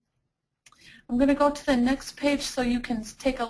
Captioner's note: voiceover